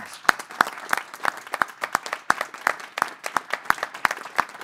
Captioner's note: board applauding